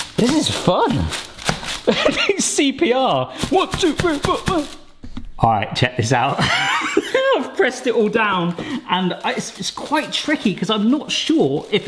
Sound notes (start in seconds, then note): 0.0 aluminium foil crackling; 1.8 laughing; 6.4 laughing